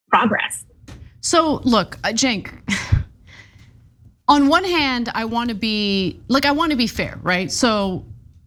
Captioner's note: laugh